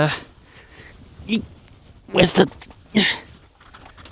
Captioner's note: general struggle noises